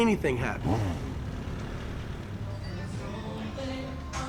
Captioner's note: car engine revving; upbeat music